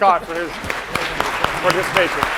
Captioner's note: applause